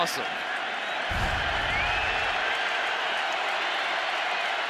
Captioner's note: crowd cheering